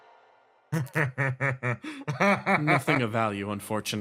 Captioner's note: cackle